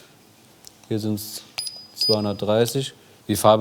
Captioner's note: beeping